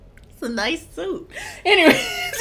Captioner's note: laughing